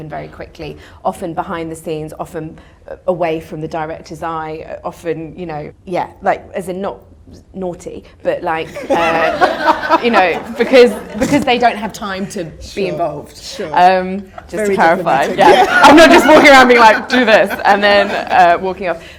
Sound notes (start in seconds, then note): 8.7 audience laughter